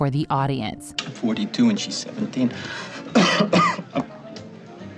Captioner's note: coughing